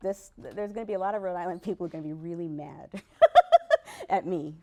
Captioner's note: laughs